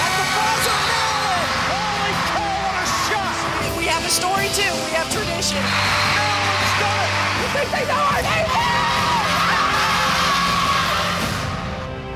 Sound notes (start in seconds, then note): 8.1 shouting